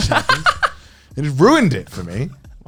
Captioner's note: laughing